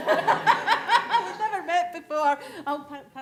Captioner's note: laughter